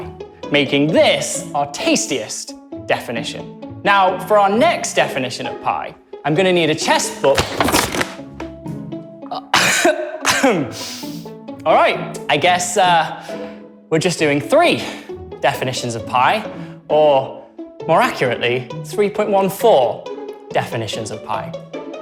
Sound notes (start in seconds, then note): 9.5 coughs